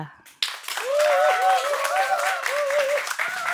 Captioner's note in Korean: 박수 소리